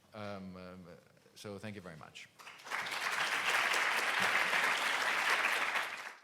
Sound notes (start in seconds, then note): 2.4 applause